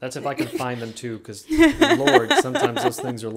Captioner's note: laughing